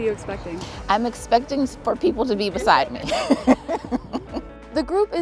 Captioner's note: laughs